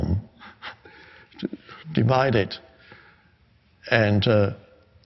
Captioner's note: chuckles